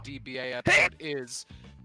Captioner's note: sneeze